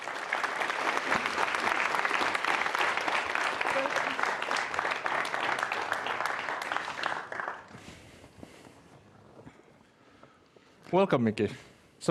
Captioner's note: applause